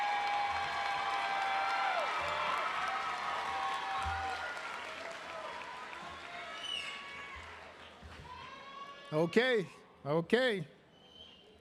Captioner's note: cheering and applause